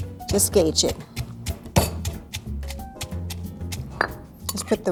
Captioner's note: banging mortar